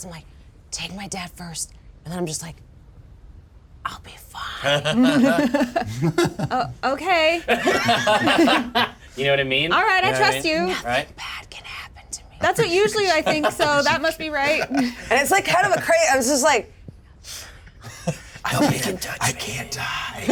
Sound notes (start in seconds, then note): 7.2 laughter